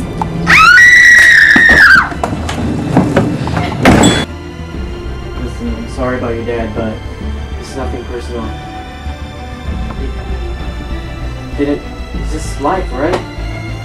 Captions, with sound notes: (Scream) Listen I'm sorry about your dad but it's nothing personal. It's.. It's just ..it's...life alright.